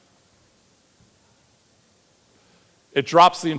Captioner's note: audience member speaking off-mic